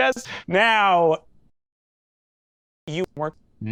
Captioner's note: silence